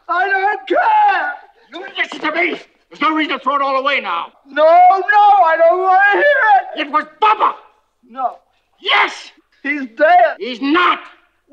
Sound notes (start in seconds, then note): none